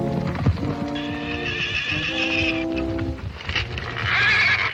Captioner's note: horse neighing